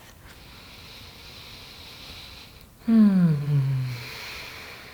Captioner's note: breathing deeply